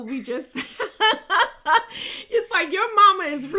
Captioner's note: chuckles happily